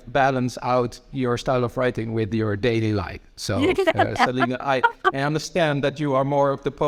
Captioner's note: laughing